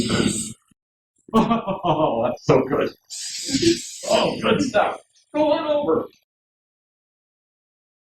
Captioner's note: sound of spraying